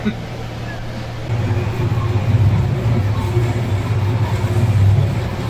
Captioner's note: sound Of Mixer